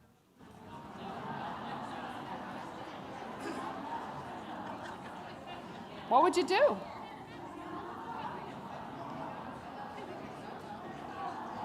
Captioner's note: laughter